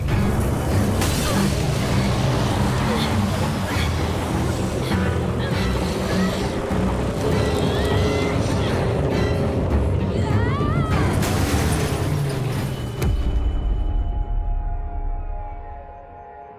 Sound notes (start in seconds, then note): 9.8 aj screams; 11.1 car crashes